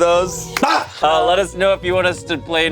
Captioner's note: screams